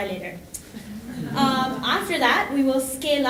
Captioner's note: audience laughing